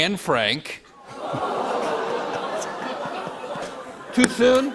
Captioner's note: audience groans